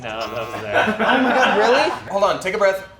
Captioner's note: movers laughing